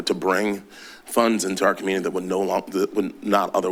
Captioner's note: none